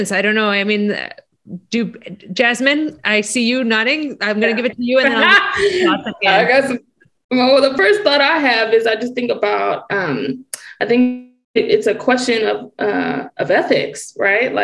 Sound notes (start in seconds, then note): 4.4 laughing